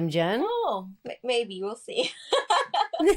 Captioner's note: laughs